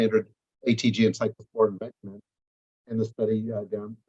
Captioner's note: microphone fades